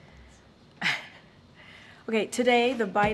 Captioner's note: laughs